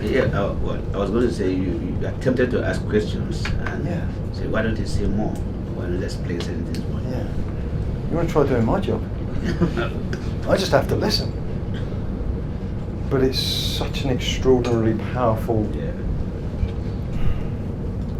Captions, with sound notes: Yeah, I wa- I was going to say you, you are tempted to ask questions and- Yeah. ... say why don't they say more when let's play says this much. Yeah. You want to try doing my job? (laughs) I just have to listen. But it's such an extraordinarily powerful- Yeah. (sighs)